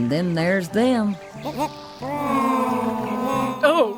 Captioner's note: fish making strange kazoo noises